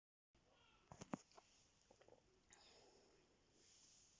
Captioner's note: sips tea